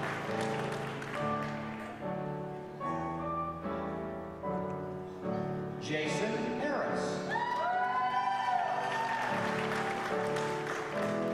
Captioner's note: applause; applause